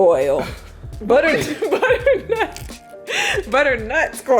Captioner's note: laughing